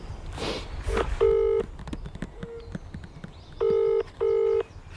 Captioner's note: phone rings